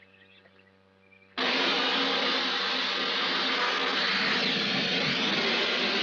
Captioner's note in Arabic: صوت الموقد